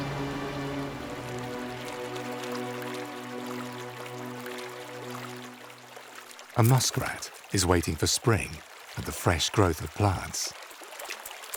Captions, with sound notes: (water sloshes) A muskrat is waiting for spring and the fresh growth of plants.